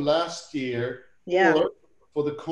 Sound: laughs

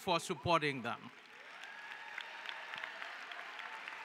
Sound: cheering

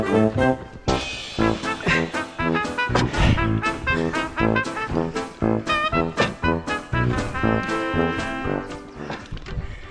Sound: panting and huffing and puffing

